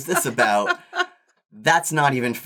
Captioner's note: laughs